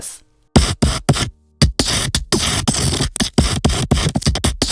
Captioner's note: digital sounds